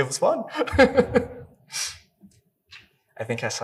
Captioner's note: Thai chuckling